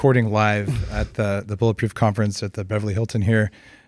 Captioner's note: chuckles